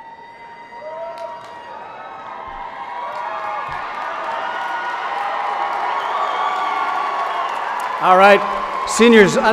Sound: cheers and applause

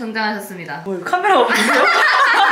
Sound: laughing

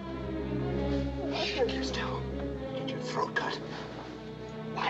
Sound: mutters

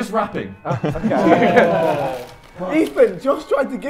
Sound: Sidemen laughing

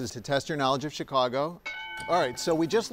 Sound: bell dinging

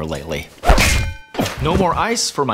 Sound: bang

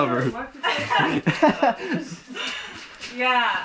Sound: laughing

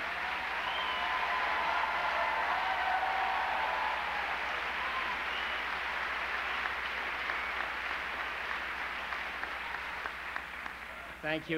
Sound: applause

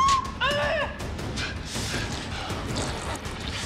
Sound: Lydia whimpering; tense music

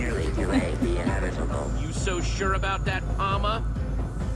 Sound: laughs

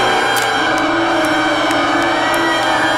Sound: plastic breaks

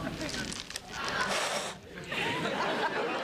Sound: blows

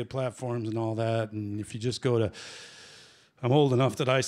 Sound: inhales

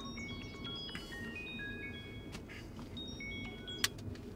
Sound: cell phone ringing

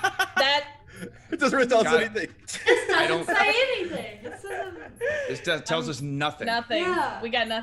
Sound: laugh

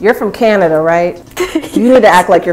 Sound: laughing

